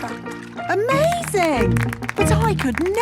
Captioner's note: clapping